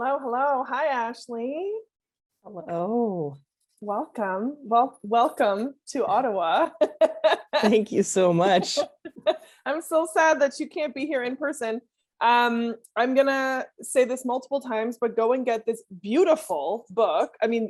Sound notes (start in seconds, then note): 6.6 laughs